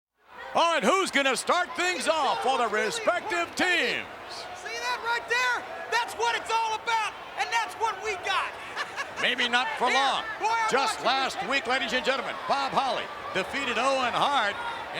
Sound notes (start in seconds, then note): 8.6 chuckles